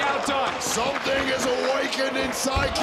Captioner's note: audience cheering